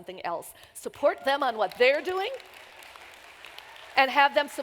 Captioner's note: applause